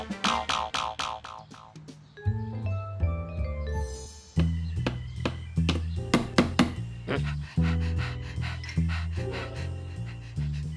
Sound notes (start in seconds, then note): 6.1 hammer thudding; 7.0 panting; 7.0 grunts